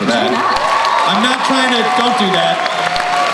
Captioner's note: cheering